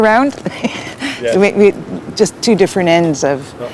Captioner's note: laughs